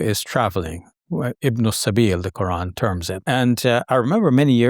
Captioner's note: speaking in foreign language